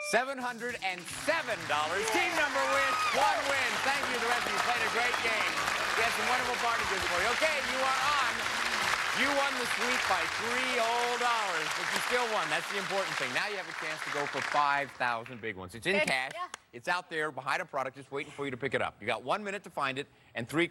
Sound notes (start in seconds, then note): 3.2 cheers and applause